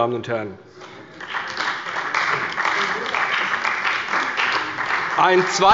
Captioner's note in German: Beifall bei der CDU und dem BÜNDNIS 90/DIE GRÜNEN